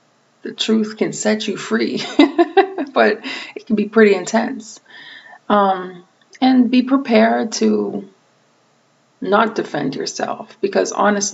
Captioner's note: laughing